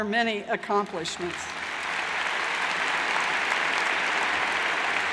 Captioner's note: crowd applauds